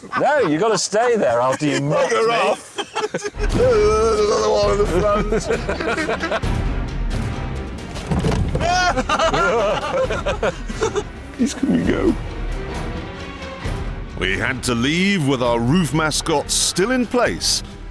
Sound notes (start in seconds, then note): 5.7 they laugh; 8.6 panicked laughter